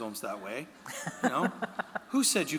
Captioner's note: laughing